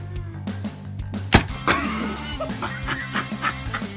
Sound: boom; extreme laughter

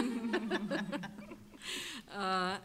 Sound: laughing

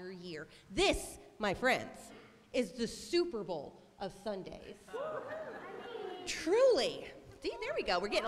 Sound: cheering

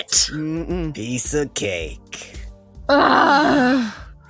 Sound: exclamations of dismay and groans as laughs

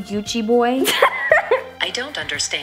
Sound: laughter

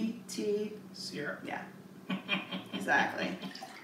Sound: laughs

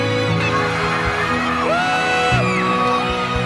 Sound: dad cheering

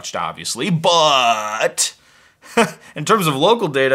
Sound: laughs

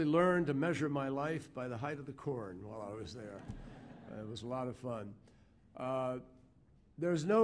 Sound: laughter

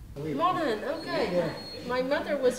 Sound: chatter

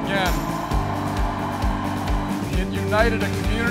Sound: cheering

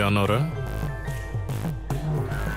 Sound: phone rings

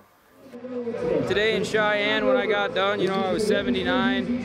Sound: loudspeaker bellowing

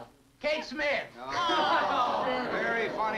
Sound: party goers groan

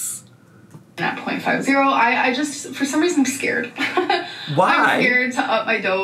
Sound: chuckles

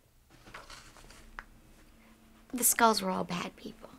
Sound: papers shuffling

